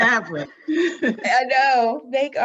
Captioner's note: laughs